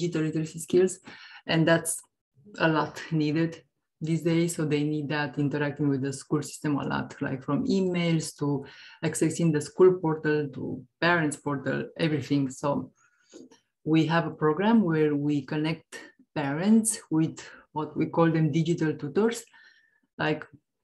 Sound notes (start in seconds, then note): none